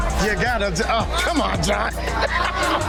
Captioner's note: laughing